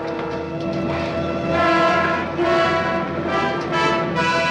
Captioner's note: crowd muttering